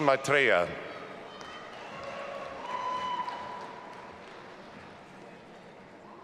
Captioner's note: audience applauding and cheering